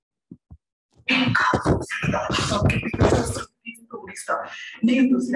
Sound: speaking gibberish

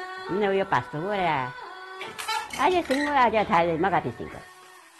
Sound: speaking in foreign language

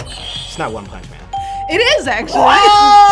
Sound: buzzer rings; bell rings

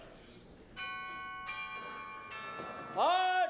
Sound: doorbell chimes

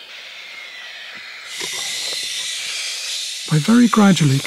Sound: loud hissing

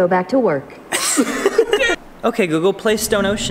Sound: they laugh

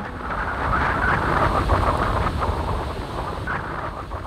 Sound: wind blowing

